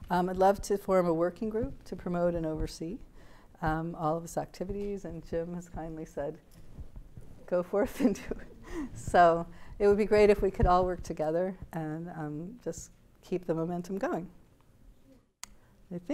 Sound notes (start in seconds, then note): 8.4 laughs